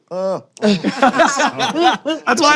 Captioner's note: laughter